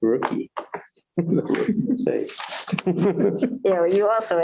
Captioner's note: laughter